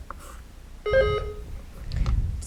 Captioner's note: buzzer beeps